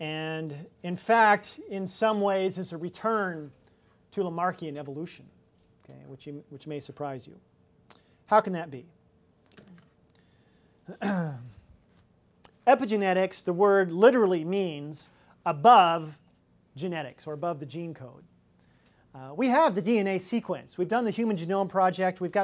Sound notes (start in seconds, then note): 10.9 clears throat